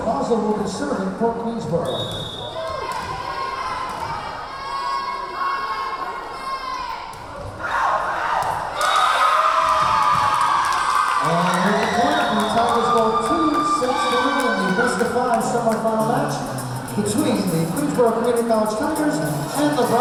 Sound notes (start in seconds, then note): 1.8 whistle blowing; 4.4 yelling; 9.7 cheering; 9.7 whistle blowing